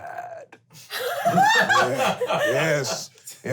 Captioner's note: laughing